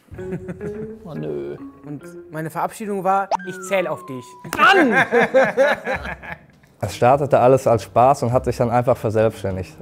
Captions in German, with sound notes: (Schelmische Musik) O nö ... Und meine Verabschiedung war: Mann! (Lachen) Es startete alles als Spaß und hat sich verselbstständigt.